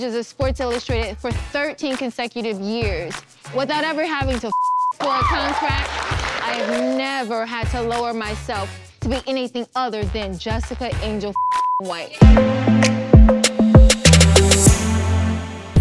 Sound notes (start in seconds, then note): 4.5 beep; 5.0 crowd cheering; 11.3 beep; 11.8 light music